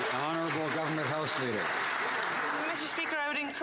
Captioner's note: some Applause